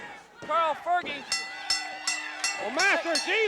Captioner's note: bell dinging